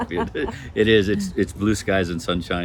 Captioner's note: laughs